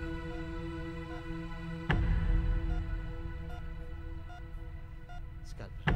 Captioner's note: Beeping sound